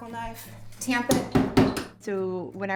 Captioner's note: mallet pounding